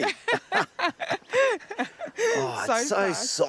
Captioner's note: both laugh